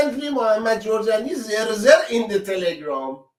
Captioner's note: reads the English letter mockingly